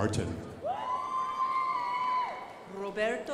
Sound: crowd applauding

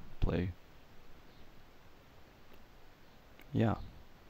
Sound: awkward silence

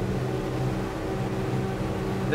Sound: engine noise

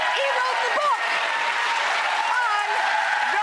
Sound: audience applauds

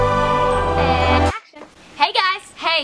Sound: voiceover

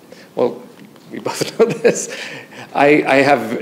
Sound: laughs

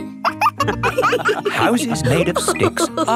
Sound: wolves laughing

